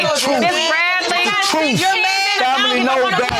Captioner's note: all chattering indistinctly